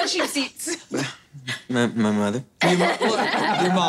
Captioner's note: laughing